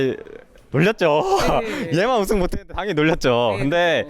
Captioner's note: laughs